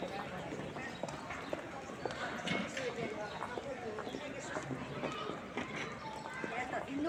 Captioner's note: quiet streets with footsteps and chatter